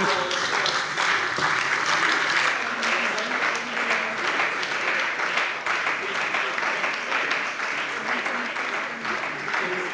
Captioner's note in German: Beifall bei der CDU und dem BÜNDNIS 90/DIE GRÜNEN